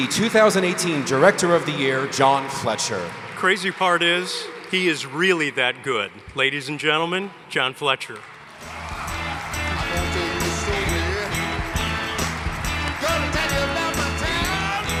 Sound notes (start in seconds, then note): 8.4 audience cheering